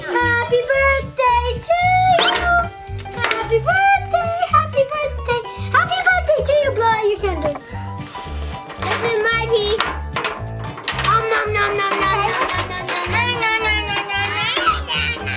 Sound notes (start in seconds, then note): 0.1 singing; 7.8 blows on candles